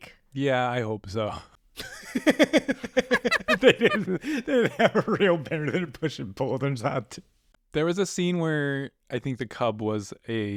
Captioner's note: laughter